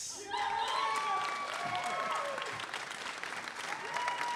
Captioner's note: audience applauding